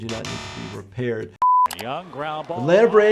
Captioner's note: beep